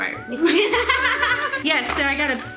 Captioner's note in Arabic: يضحك